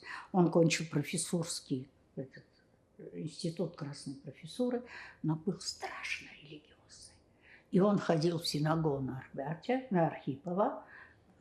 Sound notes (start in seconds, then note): 5.0 whispering